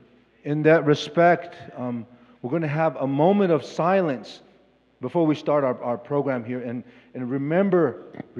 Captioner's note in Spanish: Expositor habla en inglés